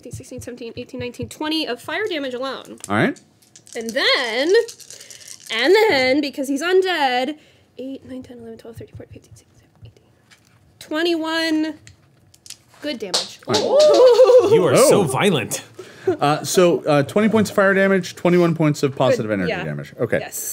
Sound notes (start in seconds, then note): 3.4 dice clacking; 13.4 group cheering